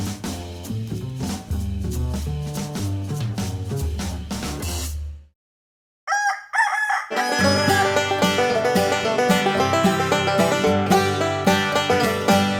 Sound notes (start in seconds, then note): 6.0 rooster crows; 7.1 banjo plays